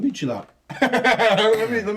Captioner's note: laughing